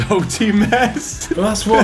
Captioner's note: laughs